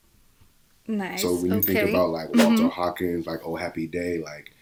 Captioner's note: whoosh